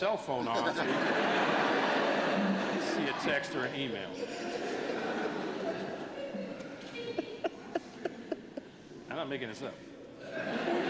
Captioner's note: laughter